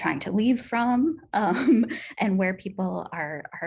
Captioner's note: laughter